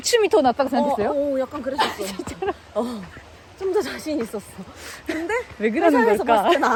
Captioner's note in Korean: 웃음